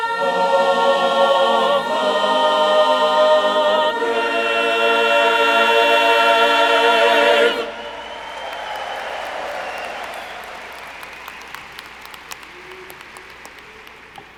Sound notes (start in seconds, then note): 6.8 audience cheering; 7.5 audience applauding